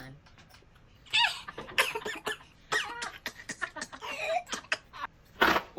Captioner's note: laughing; coughing and dying